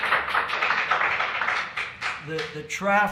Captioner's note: applause